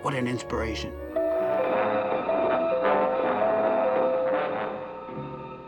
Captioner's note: doorbell chiming